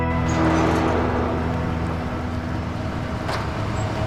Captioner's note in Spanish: Ruido del vehículo